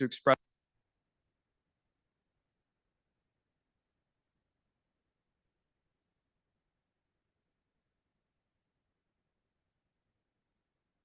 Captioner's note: no audio